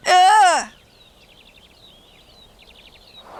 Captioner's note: birds